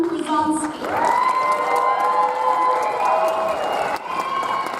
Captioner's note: audience applauds